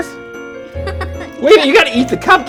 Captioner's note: laughing